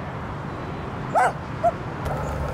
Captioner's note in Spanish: Ladra